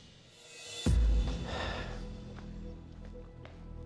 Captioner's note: sighs